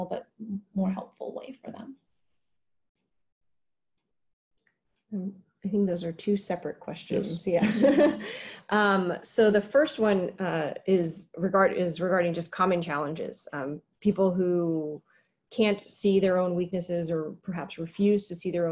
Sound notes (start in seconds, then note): 7.6 laughter